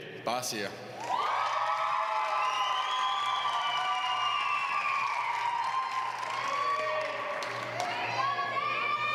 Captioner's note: applause